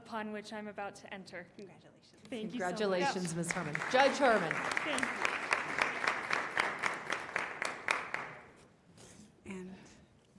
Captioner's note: applause